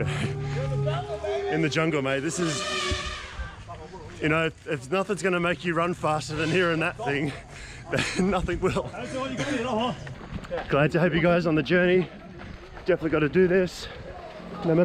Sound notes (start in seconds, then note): 0.0 laughing; 3.1 elephant trumpeting